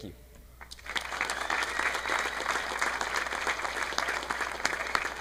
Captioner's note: audience applauding